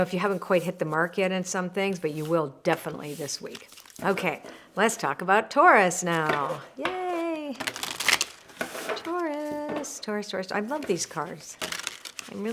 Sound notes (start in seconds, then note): 7.5 cards flipping